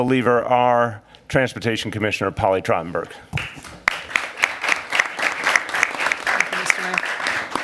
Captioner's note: applause